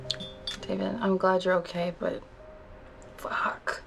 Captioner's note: none